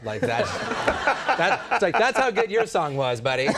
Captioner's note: audience laughing